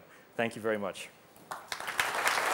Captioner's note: applause